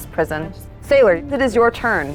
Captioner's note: speaks faintly